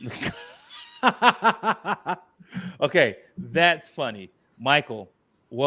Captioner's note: laughs